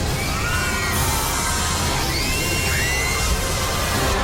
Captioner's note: guests screaming